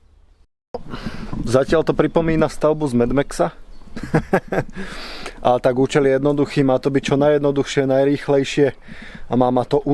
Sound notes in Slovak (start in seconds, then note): 1.1 smrkanie; 3.9 smiech